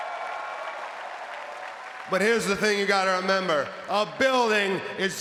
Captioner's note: applause